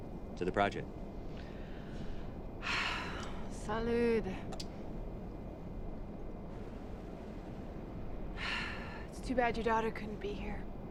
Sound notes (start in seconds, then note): 2.6 sigh